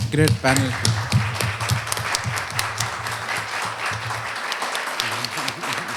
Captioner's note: applause